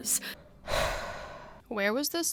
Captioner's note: deep breath